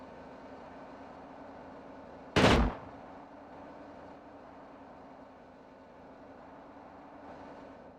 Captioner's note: gunshot